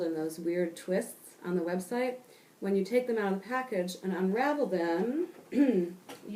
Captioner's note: cough